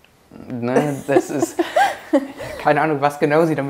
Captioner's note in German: lacht